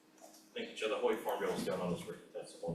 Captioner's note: speaking foreign language